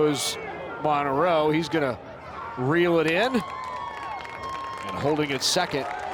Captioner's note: crowd cheers